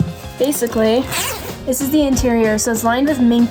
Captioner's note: zipper ripping